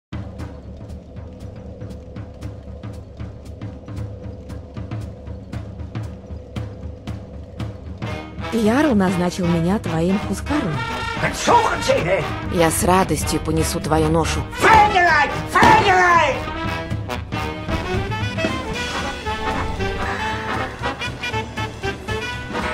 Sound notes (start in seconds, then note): 11.2 angry German sounds; 14.6 angrier German sounds